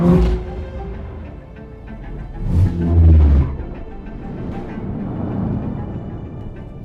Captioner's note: upbeat music; engines rumble